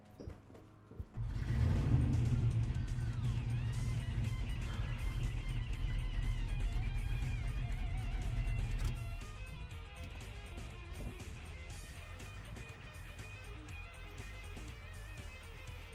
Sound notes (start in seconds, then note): 1.3 car engine rumbling; 1.3 upbeat rock music